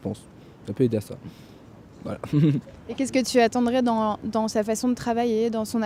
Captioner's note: laughs